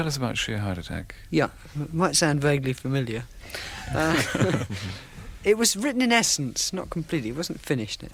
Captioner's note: laughter